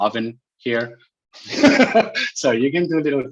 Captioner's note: laughs